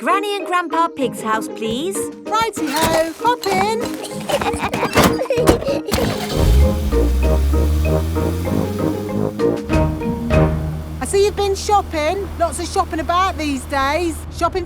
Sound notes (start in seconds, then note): 3.4 laughing; 6.3 car engine starts